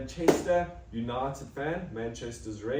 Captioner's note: clap